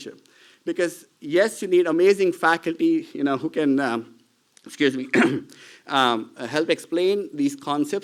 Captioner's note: clears throat